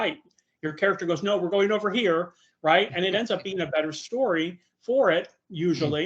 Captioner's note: laughing